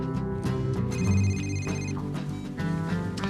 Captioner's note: CELL PHONE RlNGlNG